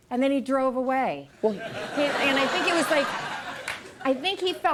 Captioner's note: audience laughing